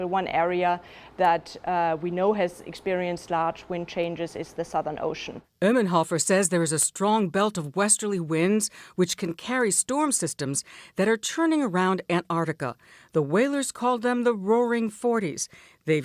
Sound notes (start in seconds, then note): 6.3 voice-over